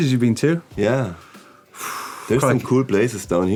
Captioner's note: sighs